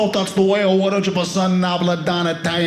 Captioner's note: speaking Italian